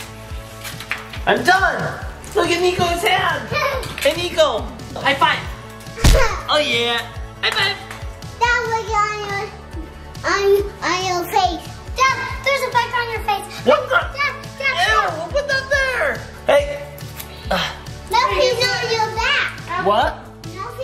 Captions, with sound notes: And done! Look at Niko's hand. Hey Niko high five! Oh yeah! High five! - Dad, look on your face. - Dad, there's a bug on your face. - What the? - Dad, dad! - Ew, who put that there? Hey! (grunts) - Something's on your back. - What?